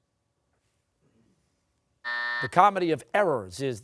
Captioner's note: buzzer